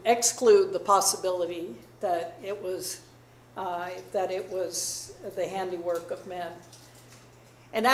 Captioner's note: none